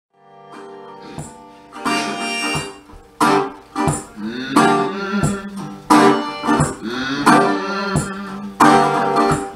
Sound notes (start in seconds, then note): 0.4 upbeat bluegrass music; 4.3 man humming